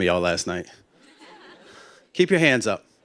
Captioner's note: laughter